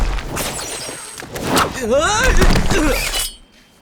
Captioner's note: grunting